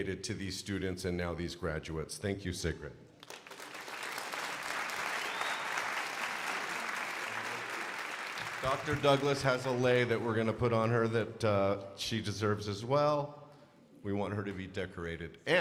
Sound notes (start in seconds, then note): 3.2 crowd applauding